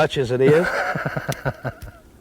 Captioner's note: laughter